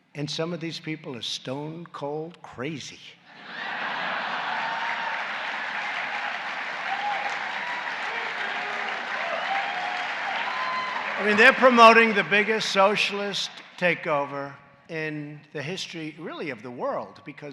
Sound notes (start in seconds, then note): 3.3 laughter and applause